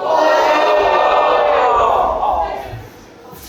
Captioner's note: audience: ooooh